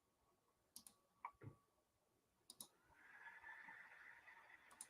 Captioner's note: mouse clicks